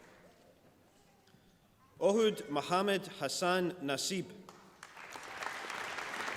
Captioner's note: applause